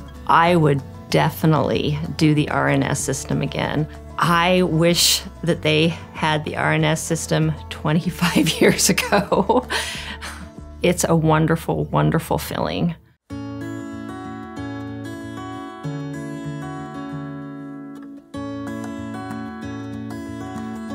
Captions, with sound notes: I would definitely do the RNS system again. I wish that they had the RNS system 25 years ago (laughs). It's a wonderful, wonderful feeling. (soft music)